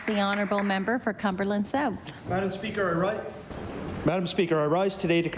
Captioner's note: applause